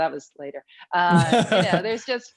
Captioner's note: laughs